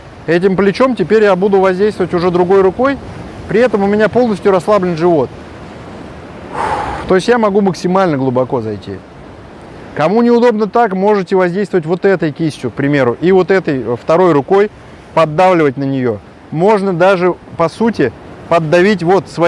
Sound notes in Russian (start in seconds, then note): 6.4 выдох